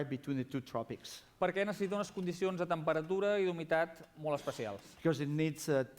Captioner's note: non-english speech